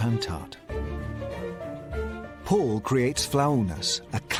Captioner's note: none